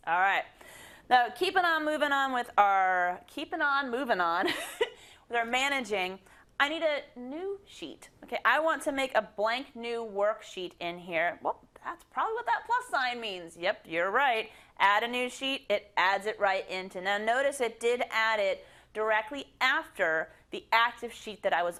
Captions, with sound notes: All right, now keeping on moving on with our, keeping on moving on [LAUGH] with our managing, I need a new sheet. I want to make a blank new worksheet in here. That's probably what that plus sign means. Yep you're right. Add a new sheet, it adds it right into. Now notice it did add it directly after the active sheet that I was on